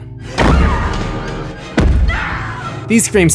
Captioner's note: screams